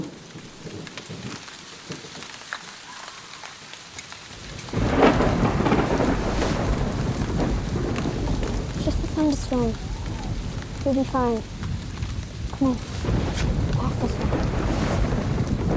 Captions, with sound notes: (thunder rumbling) (rain pattering) (thunder crashing) - It's just a thunderstorm, we'll be fine. Come on, the path's this way.